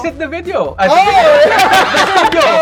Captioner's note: laughs